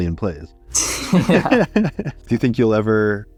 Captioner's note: both laugh